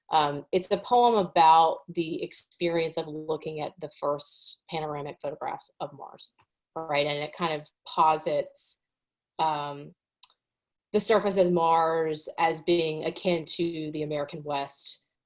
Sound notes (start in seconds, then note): none